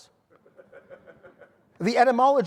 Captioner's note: audience laughing